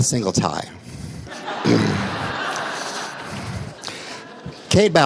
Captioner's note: laughter